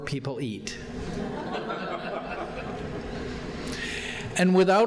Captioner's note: audience laughing